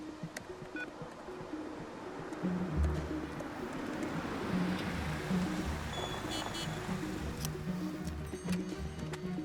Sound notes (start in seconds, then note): 5.8 horn honks